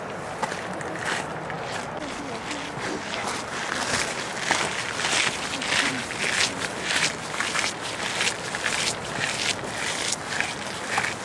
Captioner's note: wind blowing